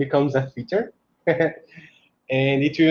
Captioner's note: chuckles